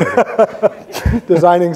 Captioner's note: both laughing